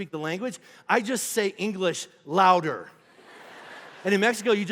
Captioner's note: congregation laughing